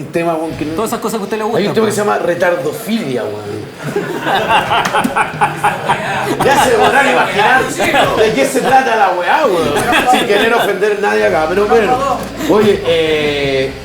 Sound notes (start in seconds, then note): 3.8 laughter